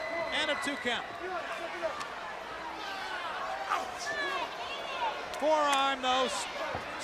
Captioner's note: crowd chatter